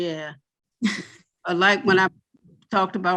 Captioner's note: chuckles